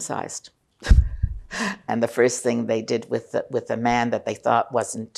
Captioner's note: laughing